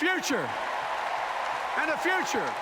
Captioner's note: applause